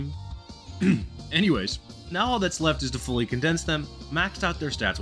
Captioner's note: cough